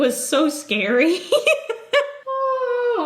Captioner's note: giggles